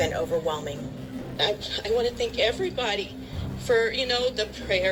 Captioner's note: on TV